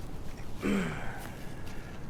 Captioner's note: Joey clears throat